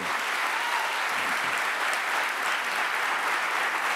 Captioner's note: audience applauds